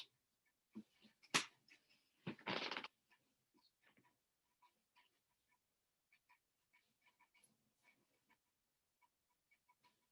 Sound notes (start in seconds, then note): 1.4 clattering and creaking